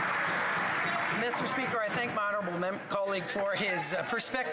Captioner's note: some Applause